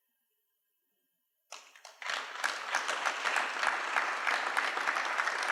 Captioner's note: applause